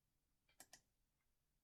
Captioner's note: click